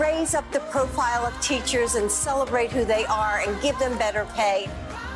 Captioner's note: cheering and applauding